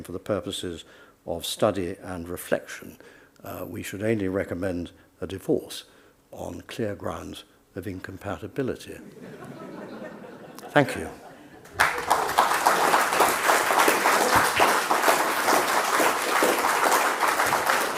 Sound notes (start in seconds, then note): 9.0 audience laughs; 11.5 audience applauding